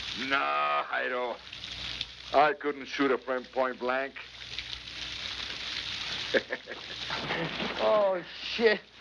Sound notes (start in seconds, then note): 6.2 laughing